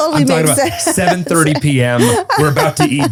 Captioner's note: laughs